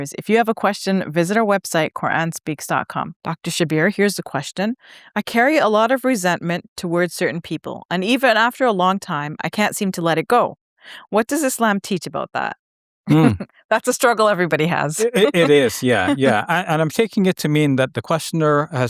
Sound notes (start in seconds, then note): 15.0 chuckles